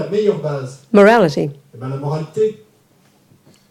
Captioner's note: speaking in French